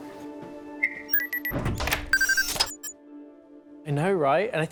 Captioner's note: beeping